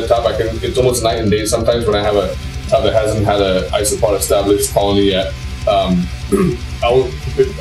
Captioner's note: clears throat